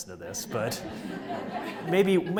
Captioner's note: audience laughs